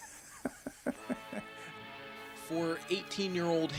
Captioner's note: laughs